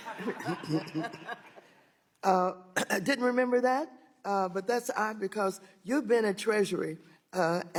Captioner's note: laughter